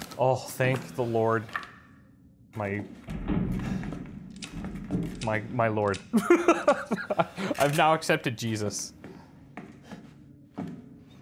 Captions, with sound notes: Oh, thank the Lord. My... my, my Lord. [laughs] I've now accepted Jesus.